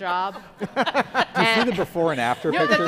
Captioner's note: audience laughing